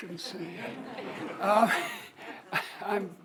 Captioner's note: audience laughs